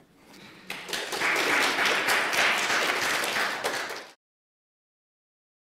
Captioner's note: applause